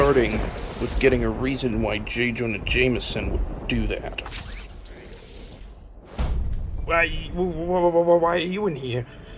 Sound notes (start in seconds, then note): 6.0 thud; 6.8 glass breaks